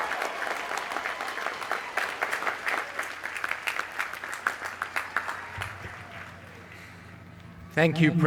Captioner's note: cheers and applause